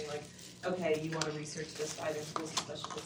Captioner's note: speaks faintly